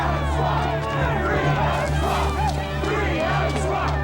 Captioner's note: crowd